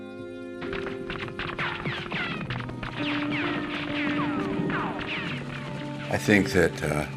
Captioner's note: gunfire